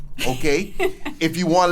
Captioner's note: laughs